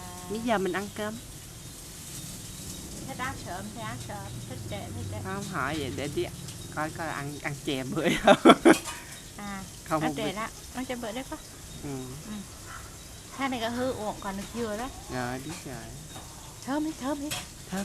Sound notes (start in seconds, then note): 6.8 laugh